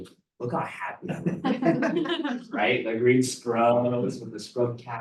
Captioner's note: laughter